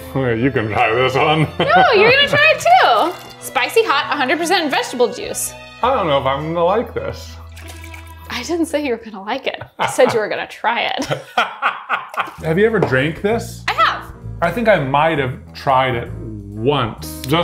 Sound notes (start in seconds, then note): 1.3 chuckling; 2.8 can shuffling; 7.4 can shuffling; 11.0 laughing